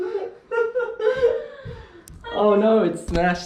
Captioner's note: laughing